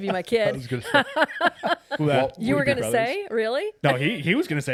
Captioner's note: laughing